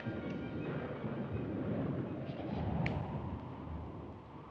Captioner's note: thunder booming